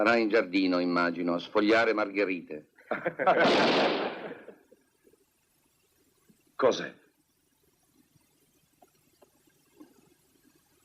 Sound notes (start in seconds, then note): 3.4 gunshot